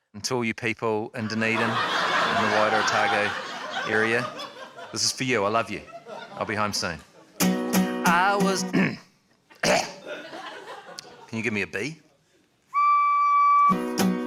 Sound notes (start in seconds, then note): 1.2 laughter; 9.6 clears throat, coughs; 12.7 blows on recorder